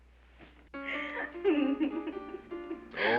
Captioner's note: woman giggling